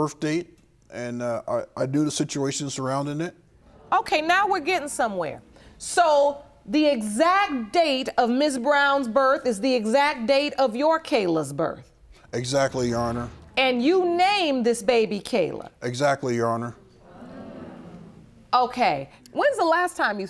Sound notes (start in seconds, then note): 15.0 audience murmuring